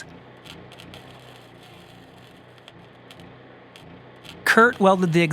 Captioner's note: welding sounds continue